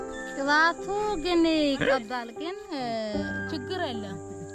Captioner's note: Mursi spoken